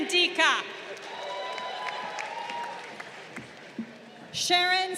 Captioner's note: crowd cheering